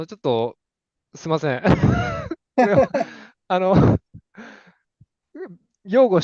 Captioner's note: laughter